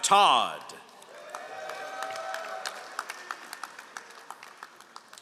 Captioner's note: all applauding